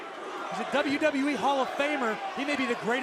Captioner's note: crowd cheering